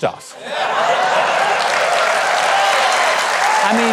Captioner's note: clapping and cheering